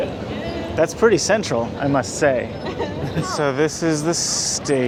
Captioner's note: laughing; laughs